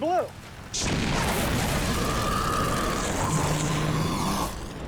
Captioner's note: roaring and hissing